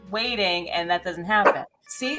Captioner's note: Butters barks